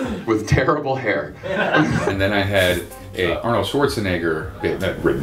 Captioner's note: laughter